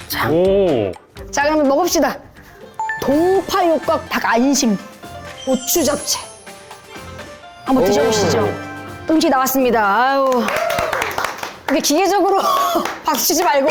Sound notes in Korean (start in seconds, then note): 10.2 터지는 박수 갈채